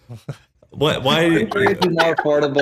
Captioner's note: laugh